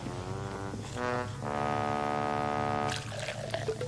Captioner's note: sad trombone